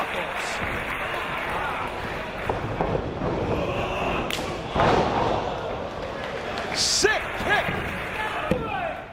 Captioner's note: applause